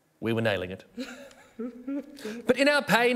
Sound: sobbing

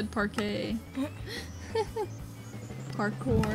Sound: laughs

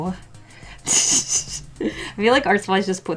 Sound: laughs

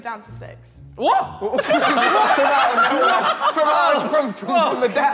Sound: Sidemen laughing

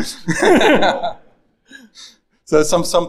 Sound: all laughing

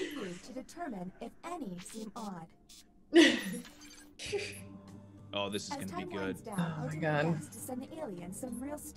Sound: laugh; laugh

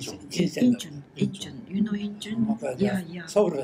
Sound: foreign language

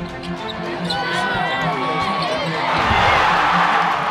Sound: crowd cheering

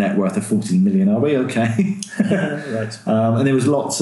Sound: laughing

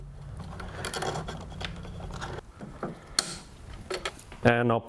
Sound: wires clicking

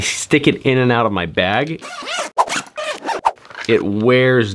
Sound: zipping

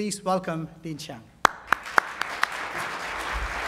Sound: applause

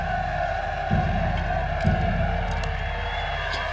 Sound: men cheer

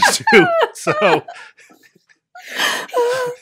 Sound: everyone laughs

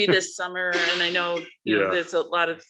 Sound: laughs

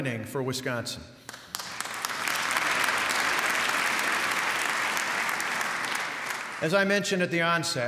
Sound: applause

